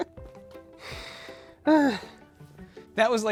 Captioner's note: sighs